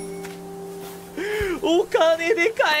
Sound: inhales again

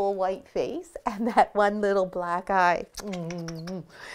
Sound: smacks kisses

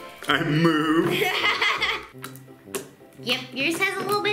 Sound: laughs

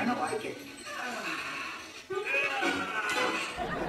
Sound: Buzz grunts; audience laughing

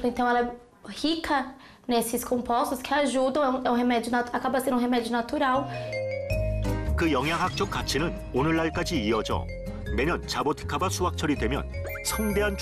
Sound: voiceover

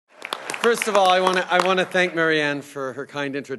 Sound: laughter and applause

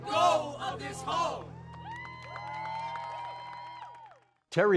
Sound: audience cheering and clapping

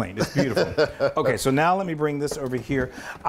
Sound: laugh

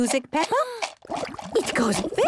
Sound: shaker shaking, water bubbling

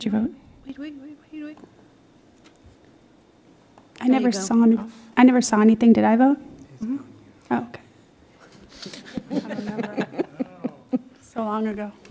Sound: laughter

